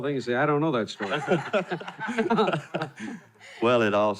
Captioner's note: laughing